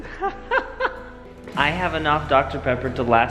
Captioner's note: laughs